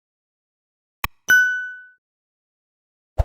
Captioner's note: bell rings